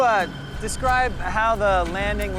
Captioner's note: tires skidding